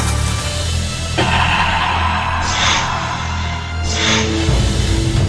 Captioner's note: creature hissing